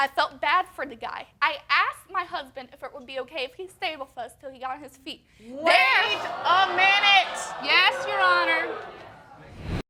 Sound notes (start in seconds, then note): 5.6 audience exclaim